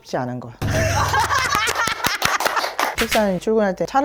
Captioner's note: laughs